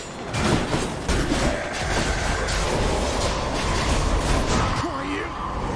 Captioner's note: growl